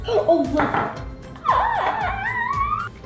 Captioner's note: squeal